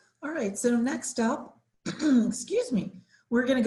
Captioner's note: clears throat